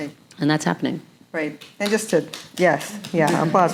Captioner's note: audience member clapping